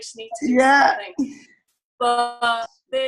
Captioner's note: laughs